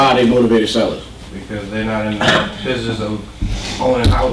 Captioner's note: voiceover